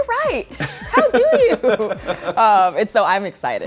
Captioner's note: laughs